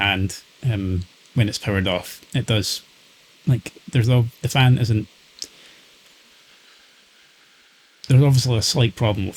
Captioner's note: pauses trying to think